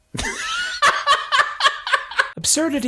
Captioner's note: laughs